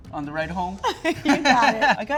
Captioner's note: laughs